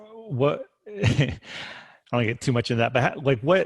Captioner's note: chuckling